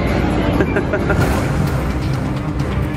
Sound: laughs

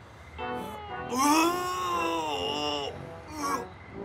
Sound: Donny retches

